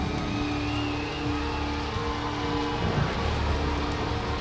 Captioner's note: audience cheers